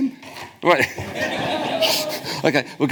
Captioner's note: audience laughs